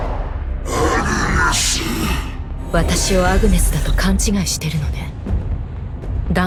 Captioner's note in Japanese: うめき声